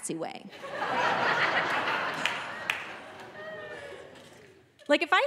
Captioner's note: audience laughing